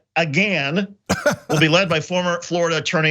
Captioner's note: laugh